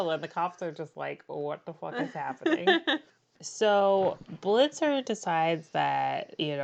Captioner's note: laughs